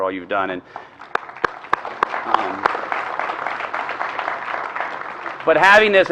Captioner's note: applause